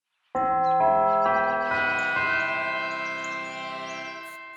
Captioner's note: bell chimes